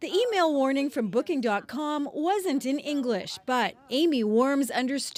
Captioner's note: speaking alternate language